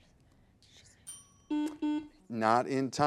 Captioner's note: timer dings; button blips